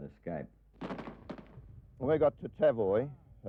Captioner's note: guns fire